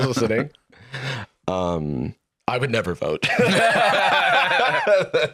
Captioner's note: both laughing